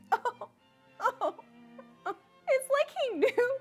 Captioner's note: sarcastic chuckling